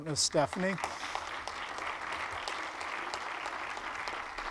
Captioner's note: audience applauds